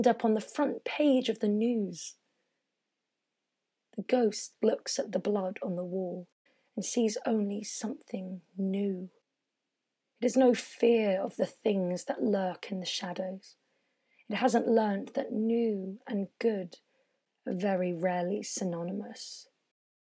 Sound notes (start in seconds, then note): none